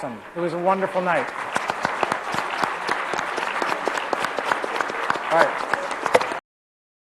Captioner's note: applause